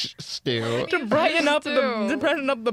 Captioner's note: laughs; laughing